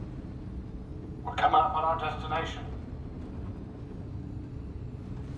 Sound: over intercom

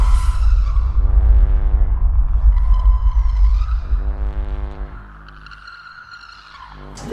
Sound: bass sounds; screeching

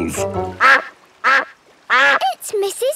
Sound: quacking

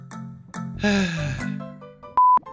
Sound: sighs

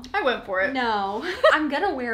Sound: laughs

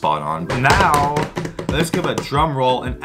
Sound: drum roll with hands on table

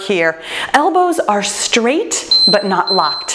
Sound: timer beeps

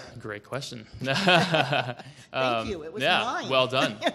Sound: laughing

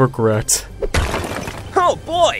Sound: smash

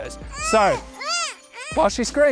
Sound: girl crying

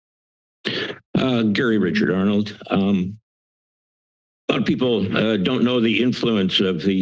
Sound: inhales

